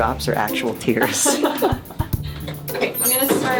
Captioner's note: laughter